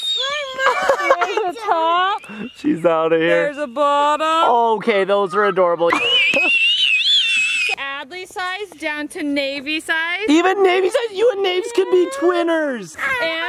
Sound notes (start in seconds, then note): 0.0 screams; 0.2 laughs; 5.9 screams